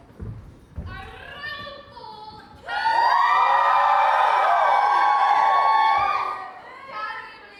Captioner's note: audience cheers